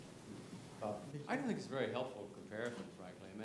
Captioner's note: none